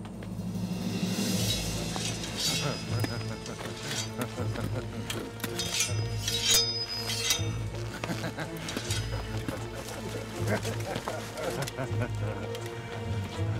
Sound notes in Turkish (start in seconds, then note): 0.0 Müzik - Gerilim; 1.4 Kılıç çekme sesleri; 10.0 Gülme sesleri